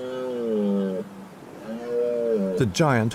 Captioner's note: stag bellows